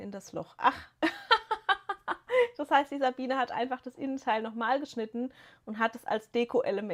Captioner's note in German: gelächter